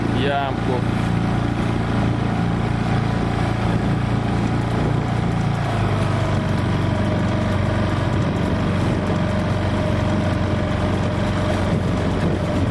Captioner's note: you hear the sound of the outboard engine